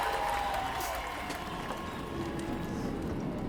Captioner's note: cheers and applause